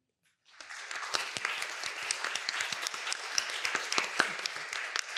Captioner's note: applause